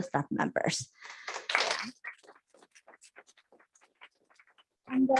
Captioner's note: applause